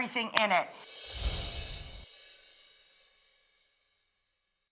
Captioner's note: chimes ringing